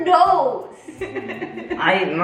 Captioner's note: chuckles